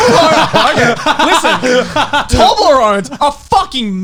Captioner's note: men laugh